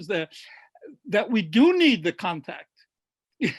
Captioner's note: laughs